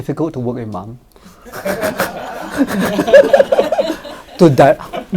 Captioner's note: audience laughs